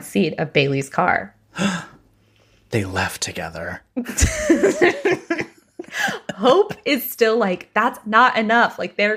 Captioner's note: gasps